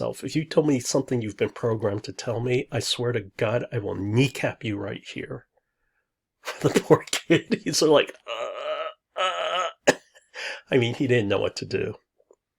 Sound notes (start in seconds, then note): 8.8 stammers